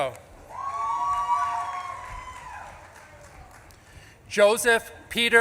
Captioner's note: audience claps and cheers